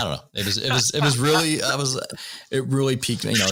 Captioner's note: laughter